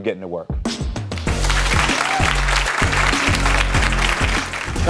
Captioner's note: audience applauds and cheers